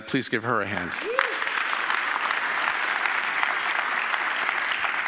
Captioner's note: audience applauding